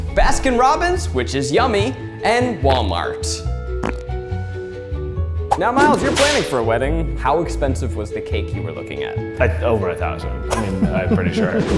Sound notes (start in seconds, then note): 3.8 fart sounds; 5.5 light music playing